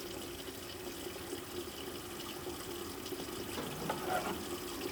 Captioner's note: water facet running